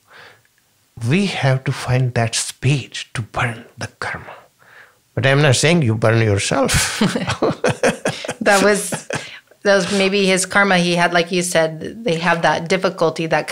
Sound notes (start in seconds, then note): 6.6 both laughing